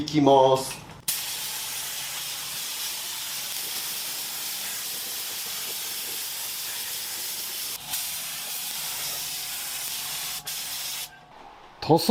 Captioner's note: paint sound